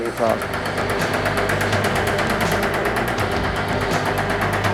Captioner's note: hammering metal